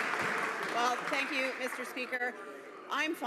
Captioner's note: applause